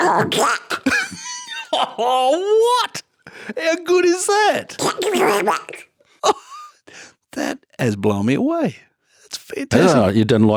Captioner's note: makes Donald Duck Sounds